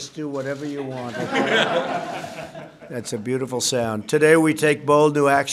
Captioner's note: laughter